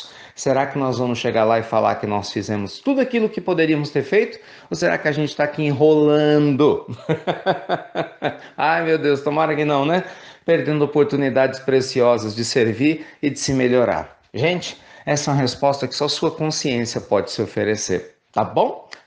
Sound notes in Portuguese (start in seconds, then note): 6.8 risos